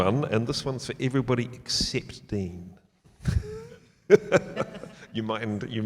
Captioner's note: laughs